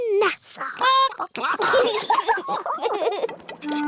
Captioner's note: children giggle; chickens chatter